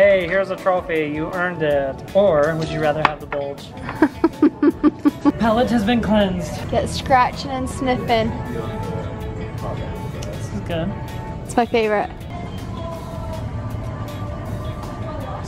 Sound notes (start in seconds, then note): 3.8 laughs